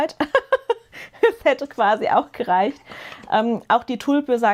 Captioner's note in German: gelächter